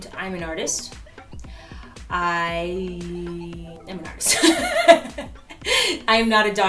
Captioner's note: laughs